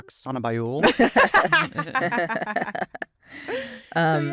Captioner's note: laughter